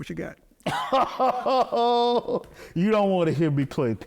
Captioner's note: laughing